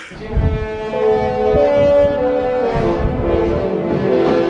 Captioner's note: horn honking